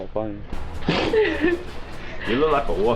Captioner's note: laughing